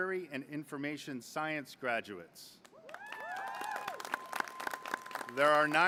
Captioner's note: applause